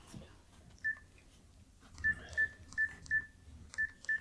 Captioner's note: beeping